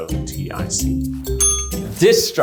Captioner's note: bell rings